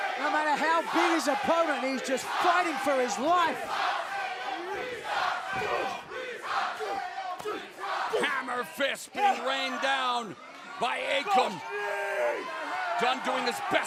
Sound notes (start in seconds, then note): 4.5 crowd cheering